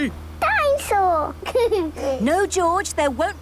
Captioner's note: giggles